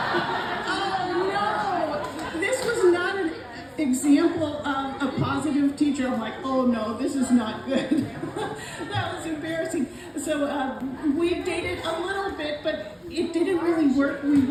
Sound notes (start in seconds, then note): 0.0 laughter; 9.4 laughs